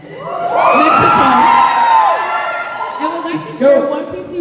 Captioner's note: cheering